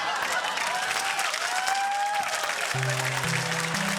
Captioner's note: cheering, applause; ascending keyboard notes play